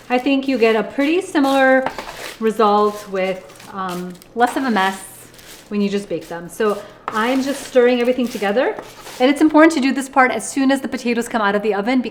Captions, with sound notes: I think you get a pretty similar result, with less of a mess, (potatoes crunching) when you just bake them. So, I'm just stirring everything together. And it's important to do this part as soon as the potatoes come out of the oven,